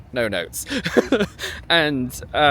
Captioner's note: laughs